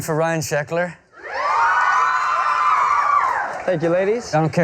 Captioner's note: screaming